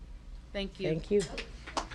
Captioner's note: applause